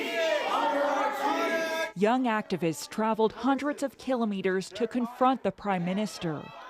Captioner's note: crowd noise